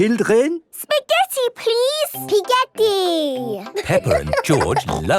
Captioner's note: laughing